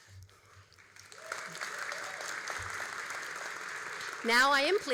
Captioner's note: all applauding